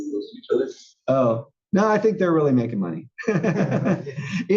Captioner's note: laugh